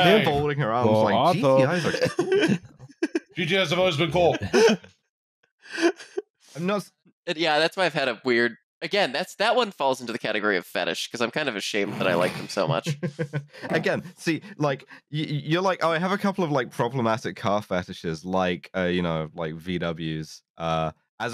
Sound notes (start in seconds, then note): 1.2 laughs; 1.5 laughter